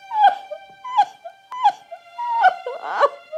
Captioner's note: crying